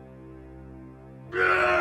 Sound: Orc yells

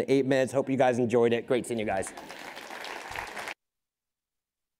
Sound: crowd applauding

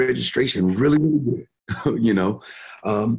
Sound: chuckling

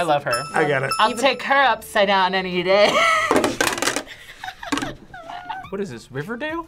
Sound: laughs

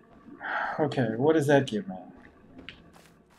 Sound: sighing

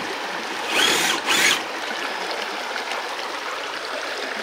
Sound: tires spinning

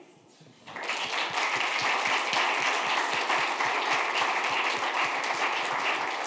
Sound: clapping

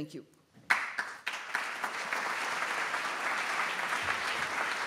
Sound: applause

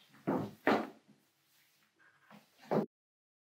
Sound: footsteps clattering

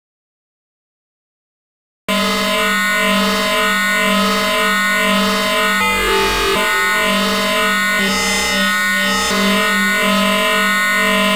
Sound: sound of glitch

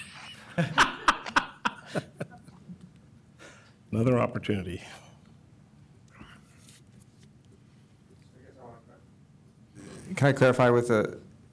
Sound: laughter

